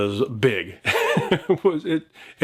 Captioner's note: speaker laughs